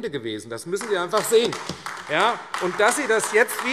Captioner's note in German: Beifall AfD